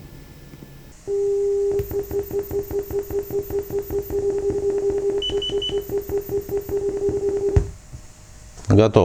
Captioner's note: calibration beeps sound